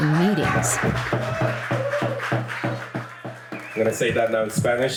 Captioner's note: crowd applauding